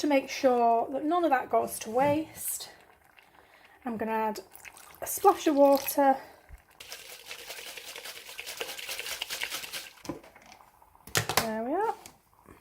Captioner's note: loud liquid shaking